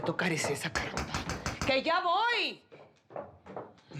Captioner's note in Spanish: toques en la puerta